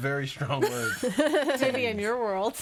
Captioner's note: all laughing